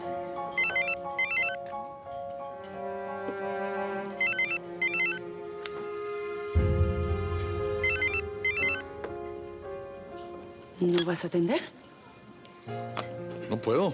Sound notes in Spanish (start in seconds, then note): 7.7 Suena el celular